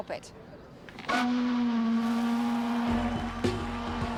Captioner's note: horn blows; upbeat music